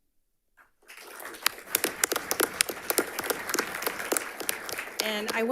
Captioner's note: audience applauds